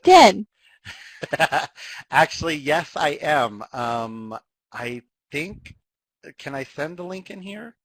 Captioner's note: laughs